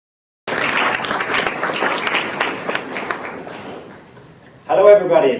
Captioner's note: applause